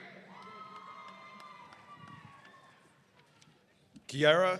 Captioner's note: audience cheering